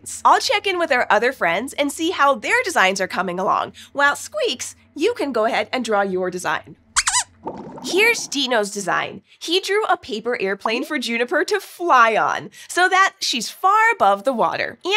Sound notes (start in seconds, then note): 7.0 squeaks squeaking